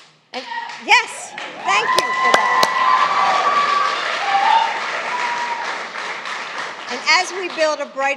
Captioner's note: applause